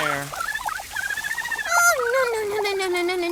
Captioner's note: burbled screaming